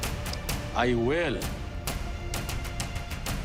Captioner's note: mouth clicks